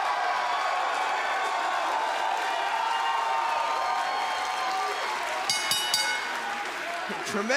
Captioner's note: cheers & applause; bell